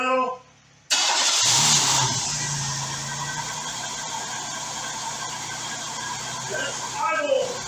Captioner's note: engine starts & idles